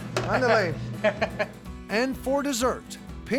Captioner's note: laughter